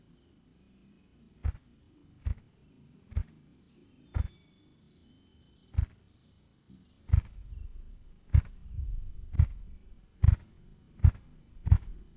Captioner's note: wing flapping sounds